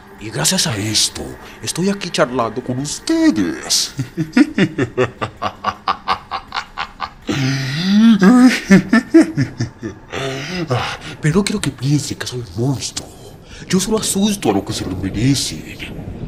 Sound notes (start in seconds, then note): 3.0 laugh